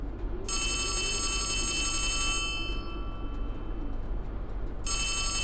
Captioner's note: alarm ringing